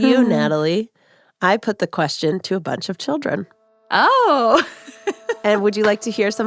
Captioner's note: laughs; laughs